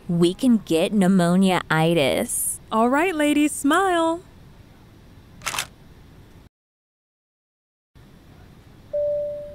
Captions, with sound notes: - We can get pneumonia-itis. - All right ladies, smile. (photo clicks)